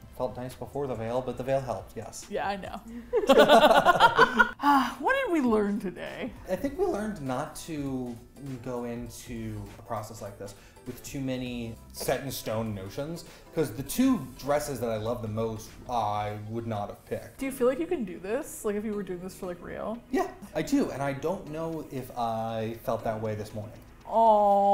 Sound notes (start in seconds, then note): 3.1 both laugh; 4.6 sighs